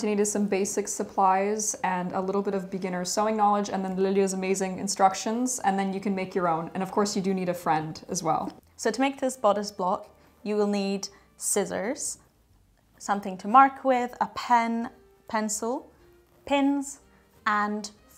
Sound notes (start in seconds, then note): none